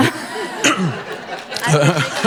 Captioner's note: audience applauding